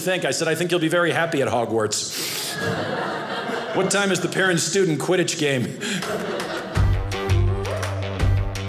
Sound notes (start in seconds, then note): 2.4 audience laughing